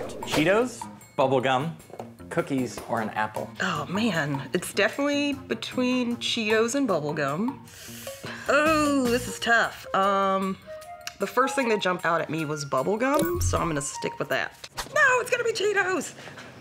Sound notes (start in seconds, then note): 7.6 sucks in breath